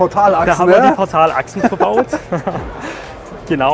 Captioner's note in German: lacht